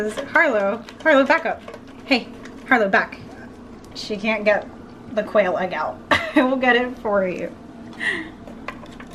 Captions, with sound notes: Harlow, Harlow, back up. Hey. Harlow, back. She can't get the quail egg out [Laughs] I will get it for you.